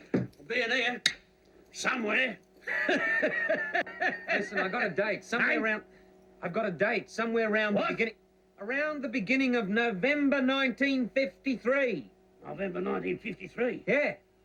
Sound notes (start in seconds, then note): 2.6 laughing